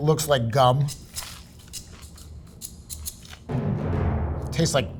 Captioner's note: sandwich rustling; upbeat music; dramatic music